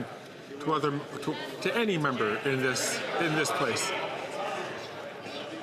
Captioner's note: some Applause